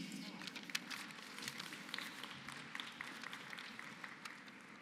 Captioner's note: applause